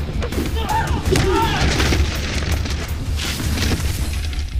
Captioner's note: clattering